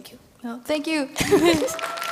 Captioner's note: applause